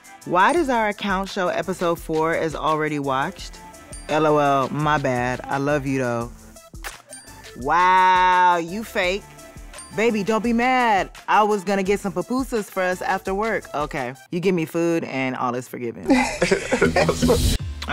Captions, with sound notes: (ding) "Why does our account show episode four as already watched?" "L-O-L my bad. I love you though." (kiss noise) "Wow, you fake" "Baby, don't be mad. I was gonna get some pupusas for us after work." Okay, you give me food and all is forgiven. - (laughs)